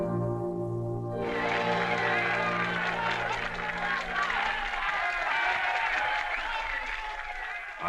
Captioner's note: applause and cheers